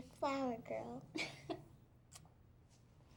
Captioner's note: chuckles